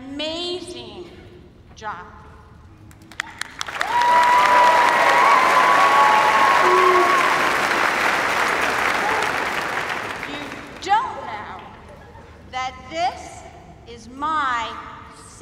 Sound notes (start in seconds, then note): 3.1 cheers and applause